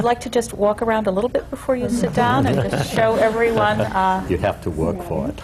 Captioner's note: laughter